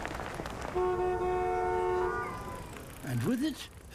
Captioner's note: horns honk